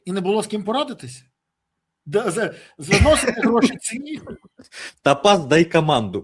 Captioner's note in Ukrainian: сміх